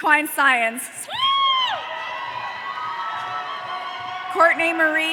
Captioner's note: audience cheering